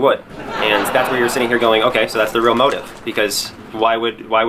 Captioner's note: laughs track sound